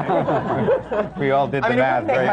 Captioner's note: laughter